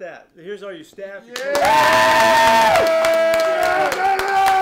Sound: clapping & cheering

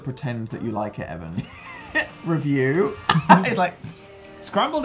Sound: laughs

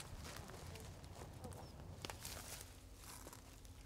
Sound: grass crunches

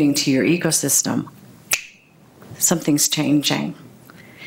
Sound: snaps fingers

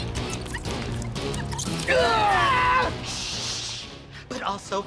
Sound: screams

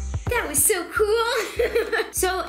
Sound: laughs

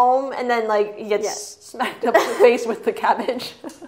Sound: laughs

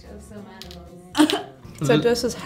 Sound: coughs

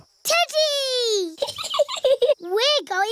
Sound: giggles

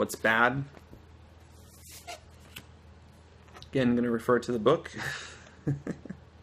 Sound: laughter

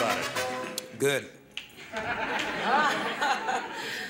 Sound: laughing

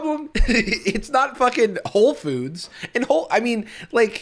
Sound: laughs

